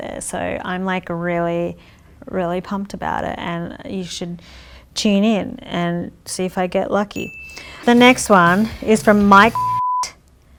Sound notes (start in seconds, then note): 7.2 bell chimes; 9.0 beep